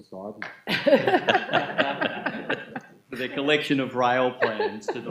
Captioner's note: laughing